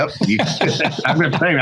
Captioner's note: laughs